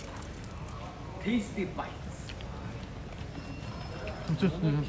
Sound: laughs

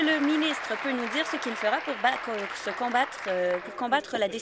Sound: applause

